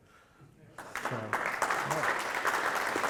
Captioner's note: applause